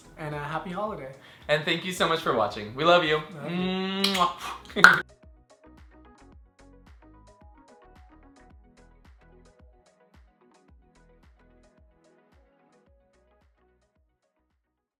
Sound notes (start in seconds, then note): 3.2 blowing kisses